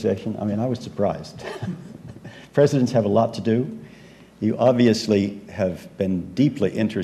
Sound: laugh

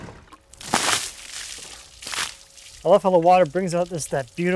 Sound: water splashes

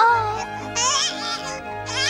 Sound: baby starts crying

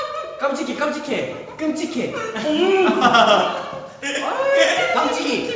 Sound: muffled frustration

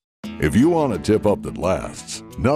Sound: voiceover

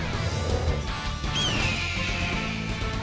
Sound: squawking

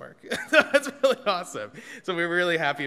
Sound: laughing

